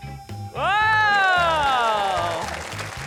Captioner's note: exclaims